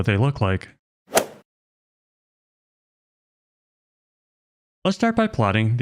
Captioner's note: golf ball hit sound